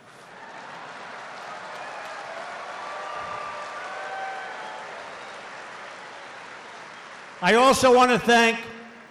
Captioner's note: applause